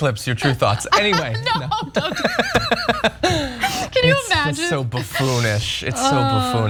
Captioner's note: laugh